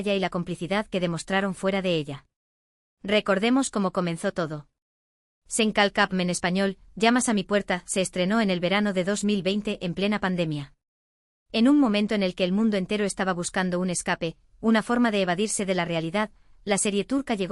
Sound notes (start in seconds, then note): 6.3 in Spanish, "You knock on my door"